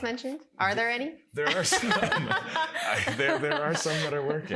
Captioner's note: laughter